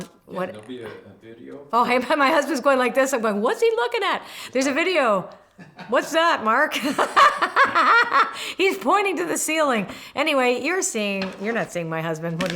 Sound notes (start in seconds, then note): 6.6 laughing